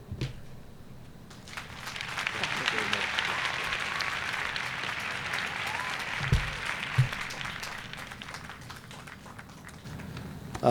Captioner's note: applause